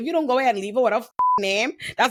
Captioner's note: beep